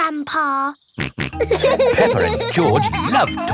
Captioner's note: laughing; snorts